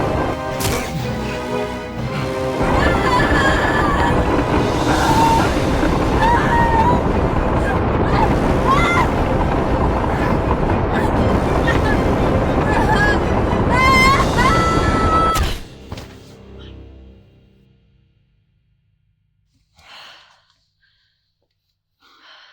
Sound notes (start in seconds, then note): 2.6 Alison screaming; 15.1 body thuds; 19.8 Alison gasping